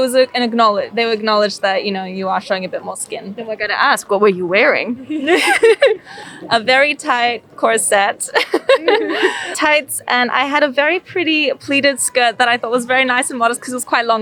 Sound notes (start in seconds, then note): 4.9 laughter